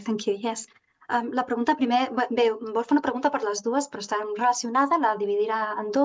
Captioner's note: speaking in Catalan